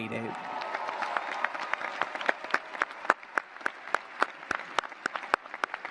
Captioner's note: cheers, applause